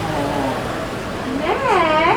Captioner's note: patient sighs in relief